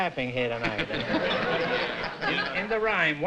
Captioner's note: laughter